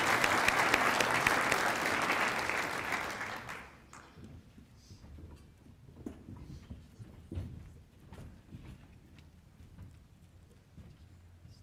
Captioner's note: applause